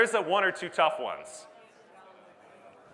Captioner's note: audience Murmurs